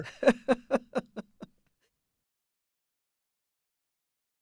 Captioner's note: laughing